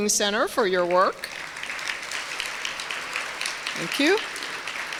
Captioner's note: applause